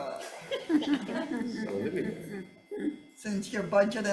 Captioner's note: senators laughing